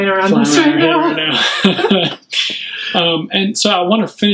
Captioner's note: laughing